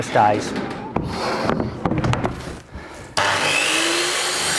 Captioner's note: panting